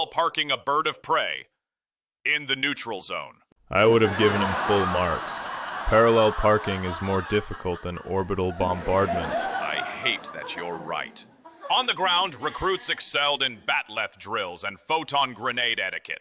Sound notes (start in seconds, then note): 3.0 big laugh; 8.7 audience laughter, some applause